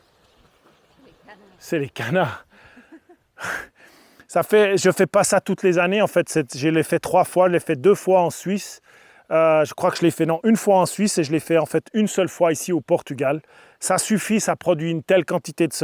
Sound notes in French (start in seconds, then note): 2.6 rires